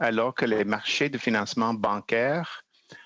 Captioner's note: speaking French